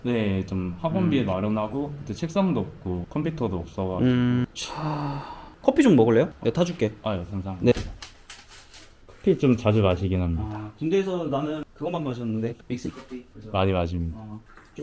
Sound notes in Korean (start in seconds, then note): 4.6 한숨